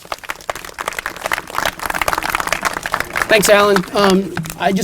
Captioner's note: applause